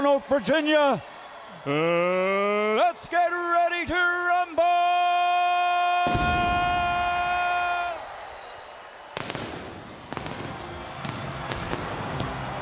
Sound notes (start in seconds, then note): 6.8 crowd cheering